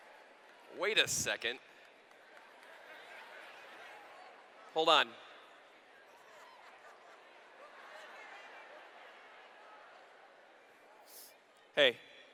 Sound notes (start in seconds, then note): 0.0 cheers; 3.5 laughter; 6.4 laughter